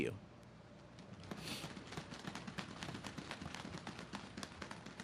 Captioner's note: audience claps